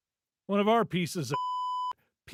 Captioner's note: beep